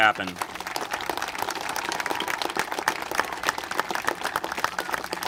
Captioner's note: congregation applaud